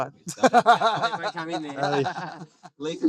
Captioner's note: laughing